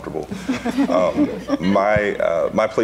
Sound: laughing

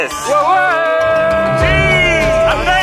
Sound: all shout

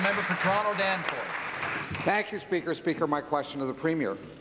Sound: applause

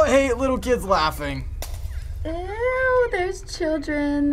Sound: shattering noises; whimpering

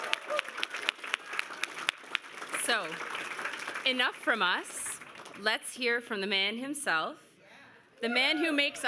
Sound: cheers and Applause

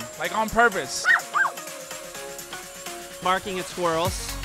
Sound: dog barking

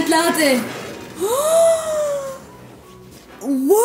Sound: gasps

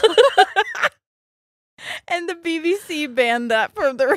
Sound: both laughing

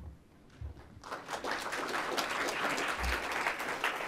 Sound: applause

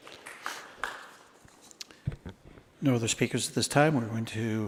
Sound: applause

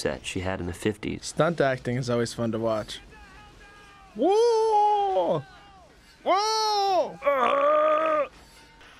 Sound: sarcastic yelling noises

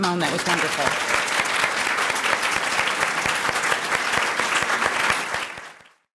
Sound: applause

